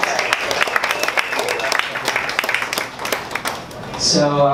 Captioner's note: audience applauding